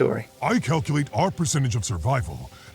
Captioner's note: voiceover